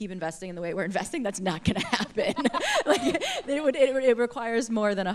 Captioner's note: laughter